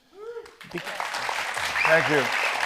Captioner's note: audience applauds